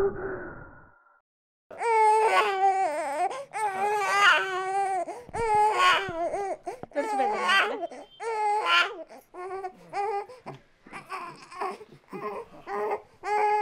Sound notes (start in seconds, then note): 1.7 baby crying